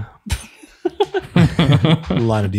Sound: all laughing

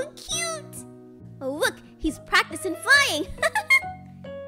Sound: laughs

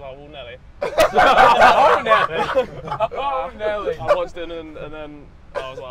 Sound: everyone laughing

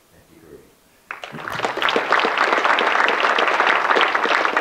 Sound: audience clapping

